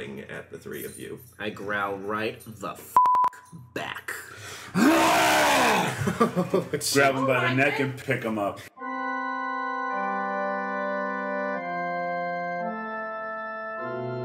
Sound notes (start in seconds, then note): 4.8 loud roar; 10.3 organ Music